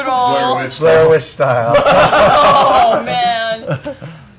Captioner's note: laughter